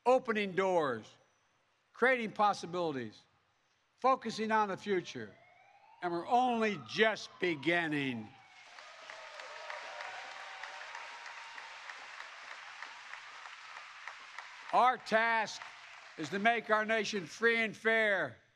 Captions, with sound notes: opening doors, creating new possibilities, focusing on the future. And we're only just beginning. (Applause) Our task is to make our nation free and fair,